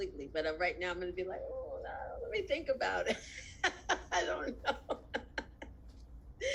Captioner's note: laughs